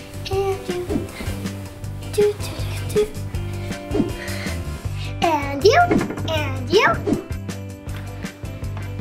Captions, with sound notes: (hums) And you, and you!